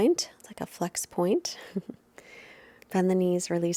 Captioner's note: chuckles